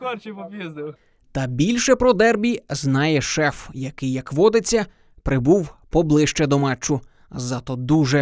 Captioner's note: voiceover